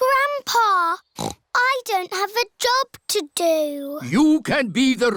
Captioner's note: snorts